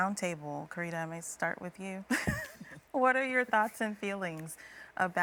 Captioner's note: chuckles